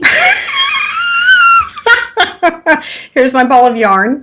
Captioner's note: laughing